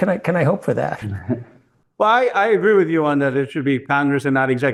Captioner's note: laugh